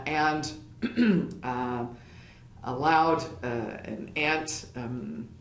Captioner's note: cough